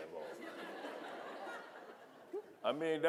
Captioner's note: audience laughing